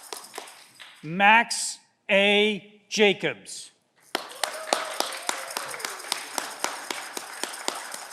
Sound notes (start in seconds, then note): 4.2 audience cheering